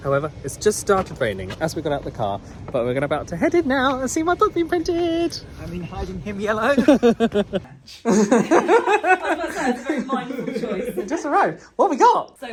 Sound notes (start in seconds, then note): 6.6 laughing